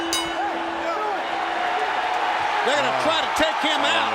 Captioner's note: crowd cheering